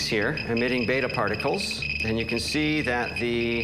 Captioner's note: beeping